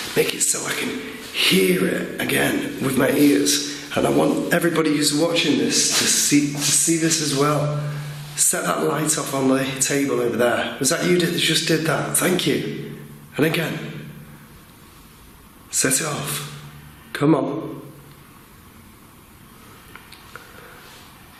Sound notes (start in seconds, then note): none